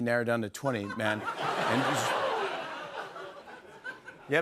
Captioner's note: laughter